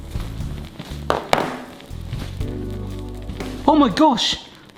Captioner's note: glass thuds; phone thuds